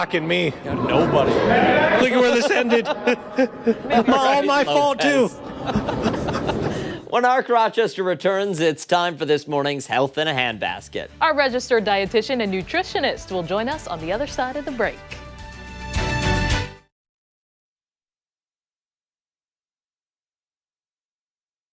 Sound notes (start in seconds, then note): 5.0 laughter